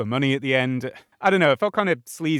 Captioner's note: sigh